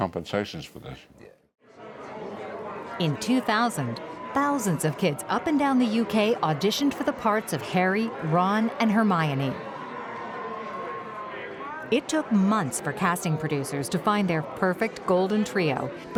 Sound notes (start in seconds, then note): 2.9 people chattering